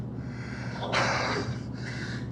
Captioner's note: exhales; gasps